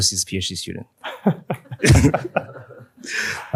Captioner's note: laughter